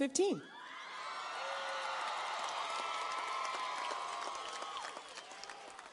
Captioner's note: audience cheers and applauds